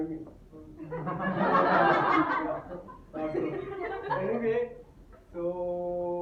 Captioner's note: laughter in audience